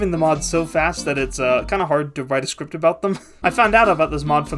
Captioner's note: laughing